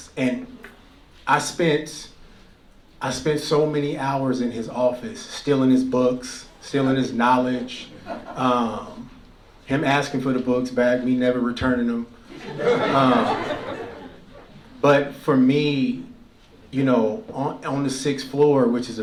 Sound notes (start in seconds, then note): 12.2 laughter